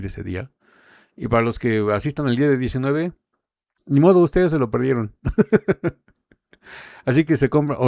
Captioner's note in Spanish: risas